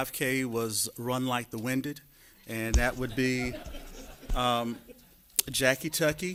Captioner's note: laughter